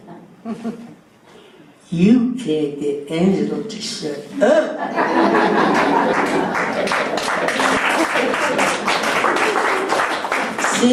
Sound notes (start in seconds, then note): 4.9 laughter and applause